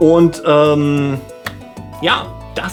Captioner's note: ✧･clap･✧